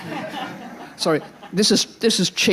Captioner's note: attendees laughing